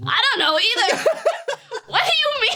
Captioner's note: laughs